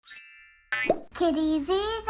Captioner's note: playful popping